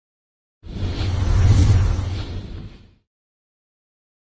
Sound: screen whooshes

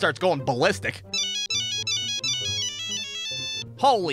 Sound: Nokia ringtone goes crazy

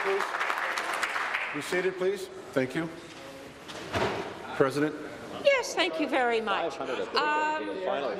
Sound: applause

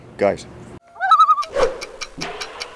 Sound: loon call

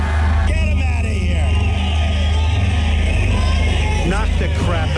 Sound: crowd shouting

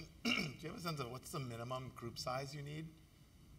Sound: cough

